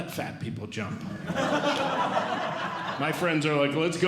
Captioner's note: audience Laughing